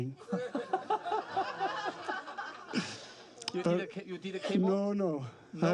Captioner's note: crowd laughs